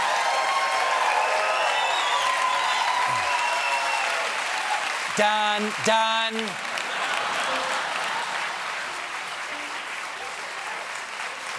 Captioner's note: applause